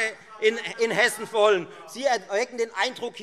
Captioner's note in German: Anhaltende Zurufe BÜNDNIS 90/DIE GRÜNEN